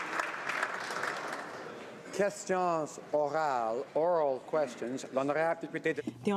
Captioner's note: some Applause